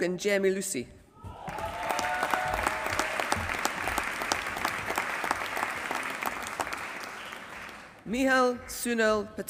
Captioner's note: applause